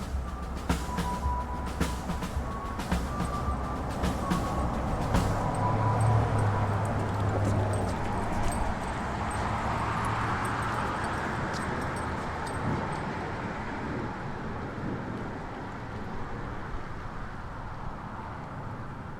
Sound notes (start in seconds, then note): 5.5 dog tags jingling; 5.8 car traffic grinding